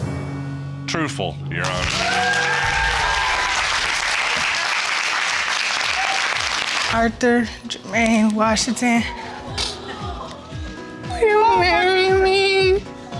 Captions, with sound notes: truthful, Your Honor. (AUDIENCE CHEERING) Arthur Jermaine Washington... (SNIFFLES) (CRYING) Will you marry me?